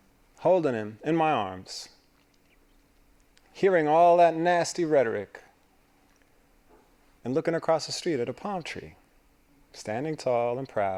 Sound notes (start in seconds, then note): none